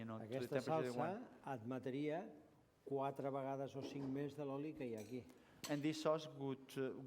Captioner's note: non-english speech